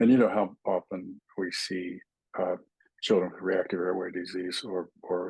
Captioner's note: indistinct chatting